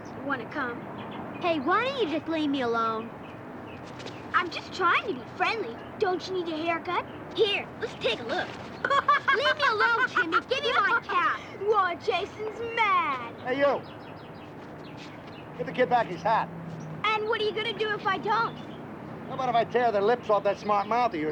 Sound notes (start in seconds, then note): 7.8 laughs; 13.4 birds tweeting